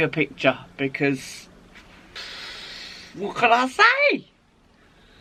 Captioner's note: exhales